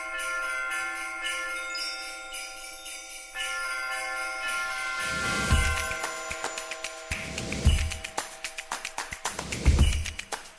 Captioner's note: sleigh bells